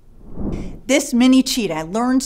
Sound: swoosh

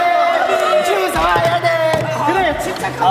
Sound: incessantly booing

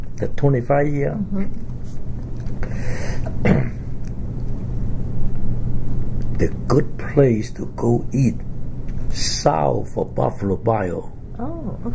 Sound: coughs

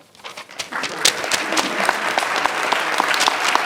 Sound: clapping

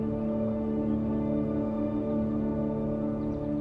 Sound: birds chirping

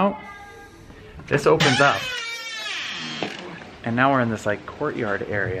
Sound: squeaking

